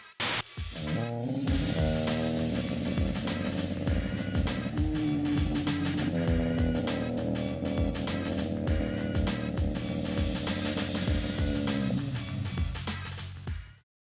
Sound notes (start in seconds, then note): 0.8 slowed down screaming